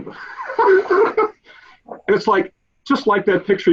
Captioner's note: laughs